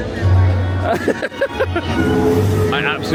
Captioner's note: laughing